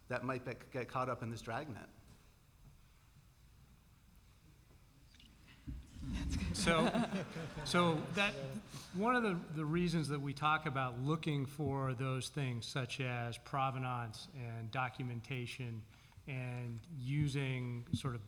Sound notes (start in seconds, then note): 5.9 laughter